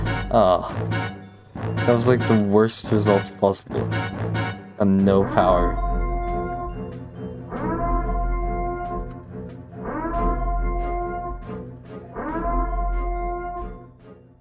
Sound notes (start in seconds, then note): 5.3 sirens